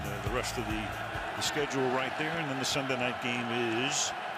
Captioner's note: cheering